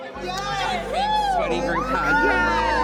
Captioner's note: all cheering